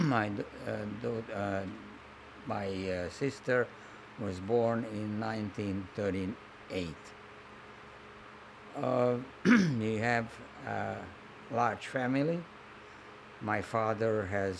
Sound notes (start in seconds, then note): 0.0 clears throat; 9.4 clears throat